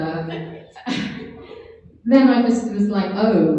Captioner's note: laughs